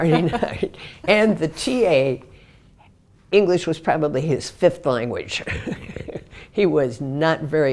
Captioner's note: laugh; laugh